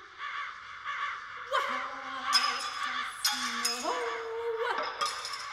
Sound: crows, breaking glass

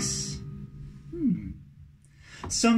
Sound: hmm

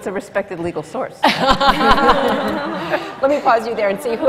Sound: laughter

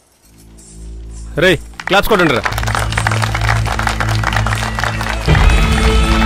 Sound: applause

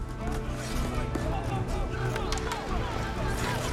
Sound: shouting

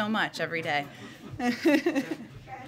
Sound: laughter

